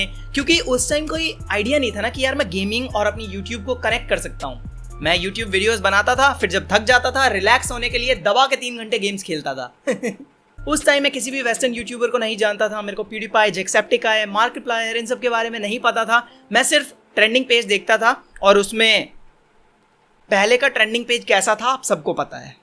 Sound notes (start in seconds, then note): 9.8 cringy Laugh